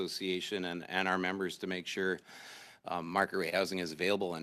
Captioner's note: speaking French